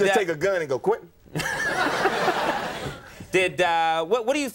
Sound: audience laughing

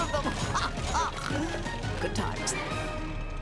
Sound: laughing

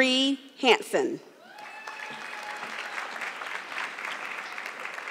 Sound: audience clapping

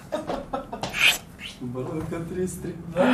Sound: more whistling; whistles

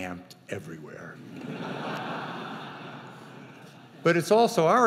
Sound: audience chuckling

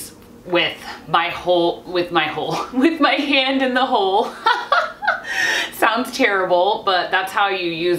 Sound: laughs

